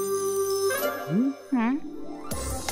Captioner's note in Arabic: موسيقى سحرية; صوت استغراب; موسيقى مرحة